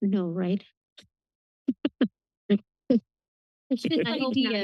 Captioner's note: laughs